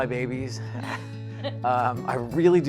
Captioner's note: chuckling